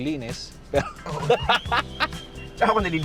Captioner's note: laughs